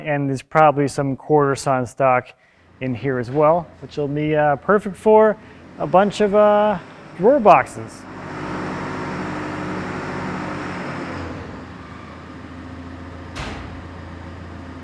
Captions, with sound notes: And there's probably some quarter-sawn stock in here as well, which will be perfect for a bunch of drawer boxes. (engine revving) (engine purring)